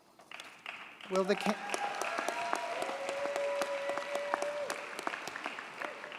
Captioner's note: audience cheers and applauds